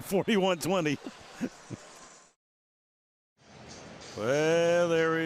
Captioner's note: laughs